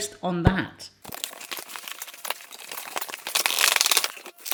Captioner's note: rustling